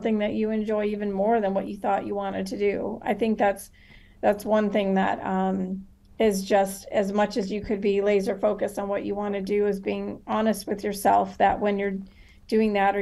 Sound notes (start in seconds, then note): none